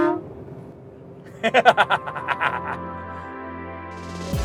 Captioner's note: he cackles